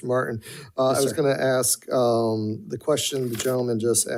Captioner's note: none